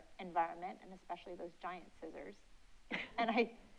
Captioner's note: chuckles